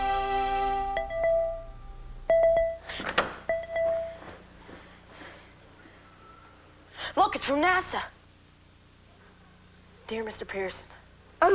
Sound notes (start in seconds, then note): 1.2 computer rings